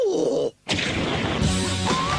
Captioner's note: monster groans; flame roars